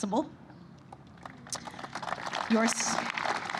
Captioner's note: applause